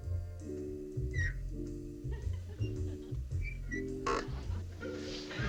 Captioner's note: creaking